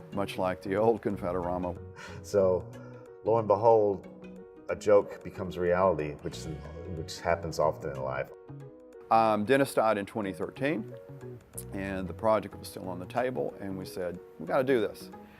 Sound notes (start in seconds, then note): 1.8 laughs